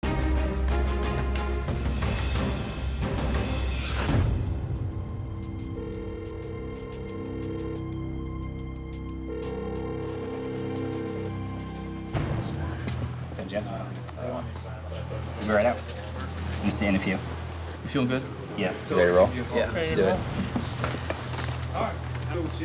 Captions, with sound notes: (simmering, adventurous music) (worrisome music) (phone rings) - Vince Jansen. We'll be right out. We'll see in a few. - You feel good? - Yes. - You ready to roll? - Yeah. - Ready to roll. - Let's do it.